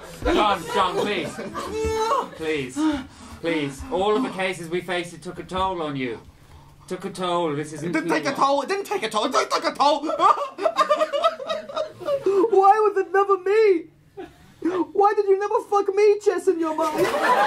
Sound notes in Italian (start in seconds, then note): 1.6 geme di dolore; 9.3 singhiozza